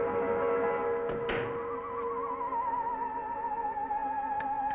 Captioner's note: door clicking